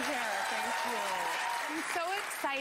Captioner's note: cheers and applause